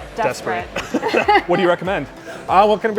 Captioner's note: both laughing